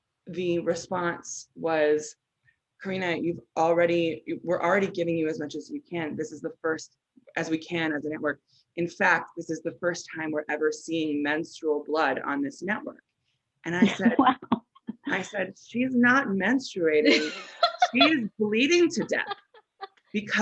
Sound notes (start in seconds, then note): 17.0 chuckles